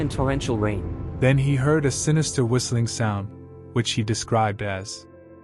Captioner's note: heavy rain backround noise